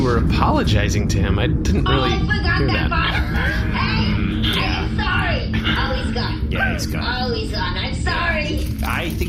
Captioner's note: shouting